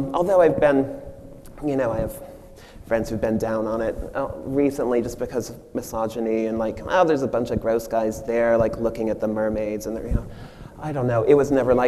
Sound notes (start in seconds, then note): none